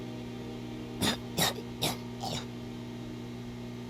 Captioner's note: cough cough